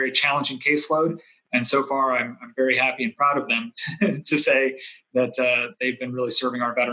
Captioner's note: chuckles